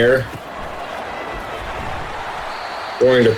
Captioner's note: crowd Noises